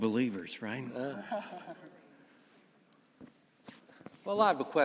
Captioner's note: audience laughing